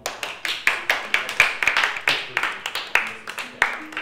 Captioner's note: applause from group